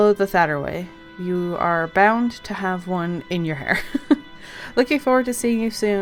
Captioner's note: laughs